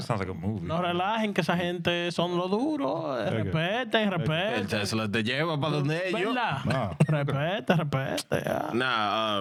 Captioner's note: speaking In Foreign Language